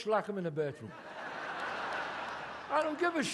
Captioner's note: audience laughs